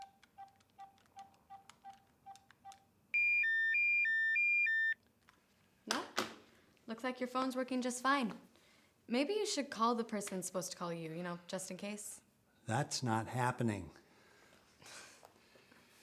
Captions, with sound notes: (phone ringing) - Nope, looks like your phone's working just fine. Maybe you should call the person who's supposed to call you, you know, just in case. - That's not happening.